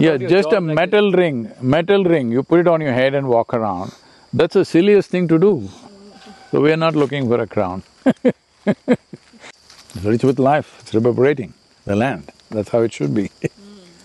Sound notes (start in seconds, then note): 8.0 laughs